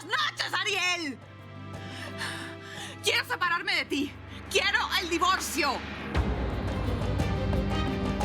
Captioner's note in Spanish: Sollozos